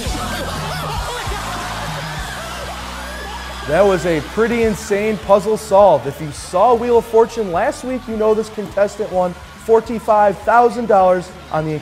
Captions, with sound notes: "Oh, that's it." (LAUGHTER) That was a pretty insane puzzle solve. If you saw Wheel of Fortune last week, you know this contestant won $45,000 on this incredible